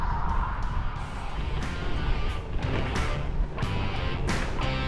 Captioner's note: music - Bike wheels on gravel